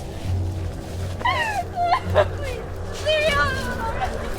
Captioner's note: suspenseful music; woman crying